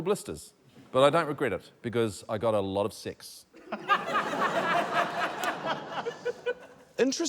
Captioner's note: laughter